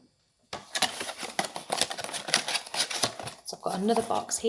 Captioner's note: cardboard creaking